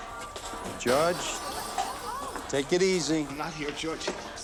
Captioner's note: bottle breaking